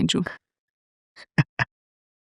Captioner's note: laughs